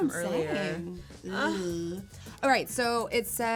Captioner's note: both groaning